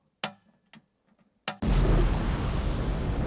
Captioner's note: click